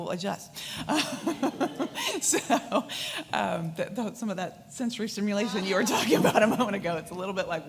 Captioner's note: laughs